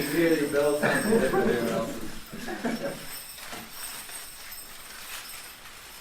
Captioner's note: bells ringing; laughter